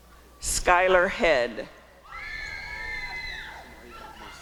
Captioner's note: applause and cheering